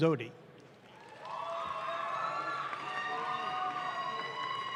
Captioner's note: audience claps